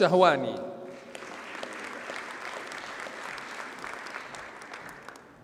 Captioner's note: audience applauds